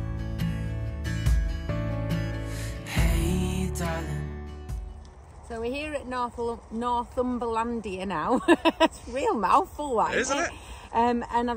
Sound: laughing

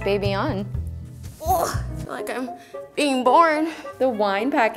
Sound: groans

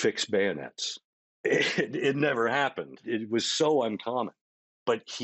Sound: chuckling

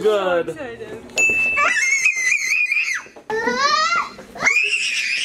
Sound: squealing

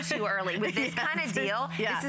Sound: laughter

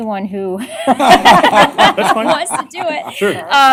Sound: laughter

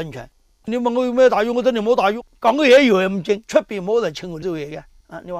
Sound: Cantonese

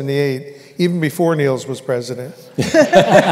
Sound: laughter

